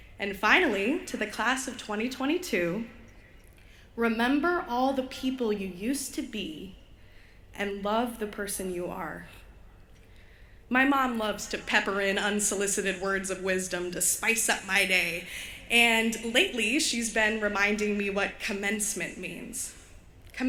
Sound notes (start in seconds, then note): none